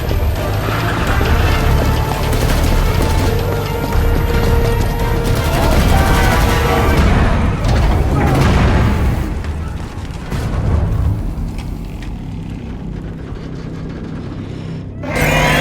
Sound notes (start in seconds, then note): 0.1 dramatic music; 4.9 gun firing; 12.7 metal rumbling; 15.4 machine groans